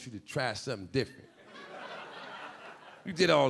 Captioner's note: audience laughing